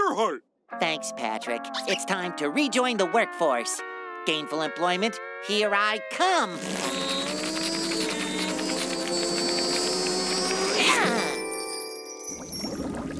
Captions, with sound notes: Thanks, Patrick. It's time to rejoin the workforce. Gainful employment, here I come. [grunting]